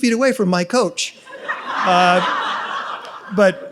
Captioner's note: audience laughs